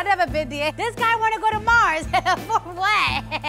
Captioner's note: laughing